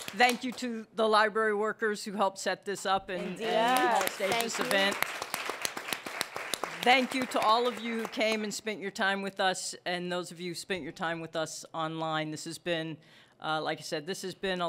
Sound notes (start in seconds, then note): 3.4 applause